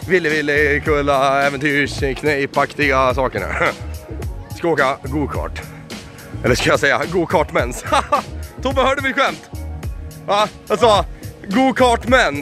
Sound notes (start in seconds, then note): 5.6 sigh; 7.7 heheheh